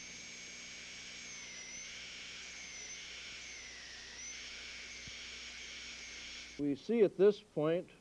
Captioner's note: drilling sound